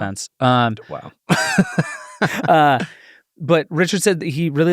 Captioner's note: both laughing